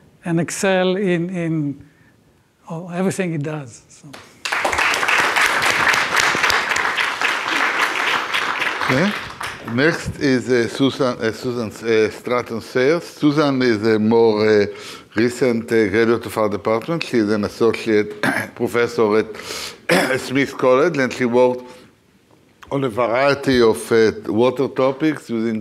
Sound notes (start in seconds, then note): 4.4 audience applauds